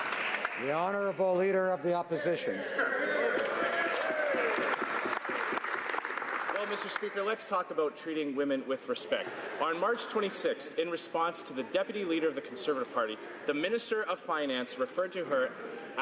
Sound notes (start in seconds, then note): 0.3 some Applause; 6.9 some Applause